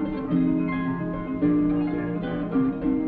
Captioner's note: none